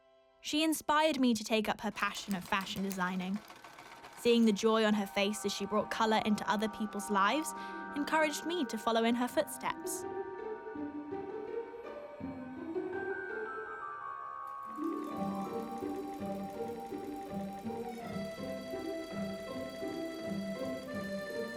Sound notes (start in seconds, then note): 10.3 inquisitive music plays; 15.0 sewing machine hums